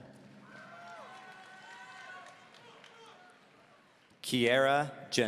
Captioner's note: audience cheering